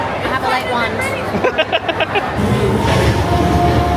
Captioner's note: laughing; spooky music